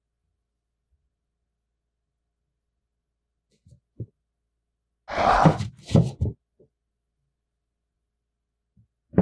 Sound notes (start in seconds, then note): 4.9 exhales